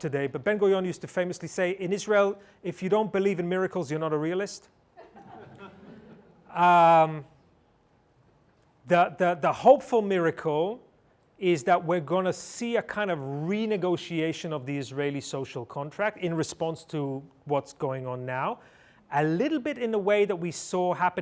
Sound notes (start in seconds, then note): 4.9 laughter